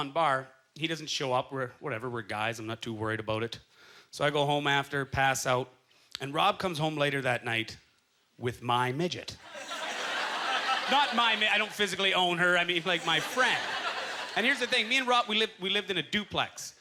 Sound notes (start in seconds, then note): 9.4 audience laughter